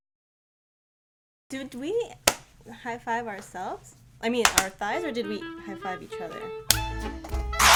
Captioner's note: hands slapping; hands slapping; feedback noise